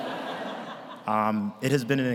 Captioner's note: audience laughs